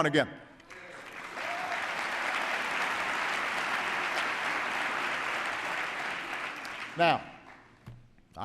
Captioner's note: applause